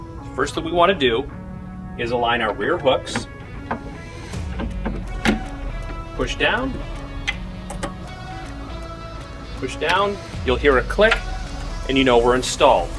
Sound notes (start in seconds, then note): 7.2 click; 9.9 click